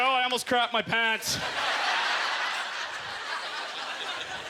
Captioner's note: audience laughter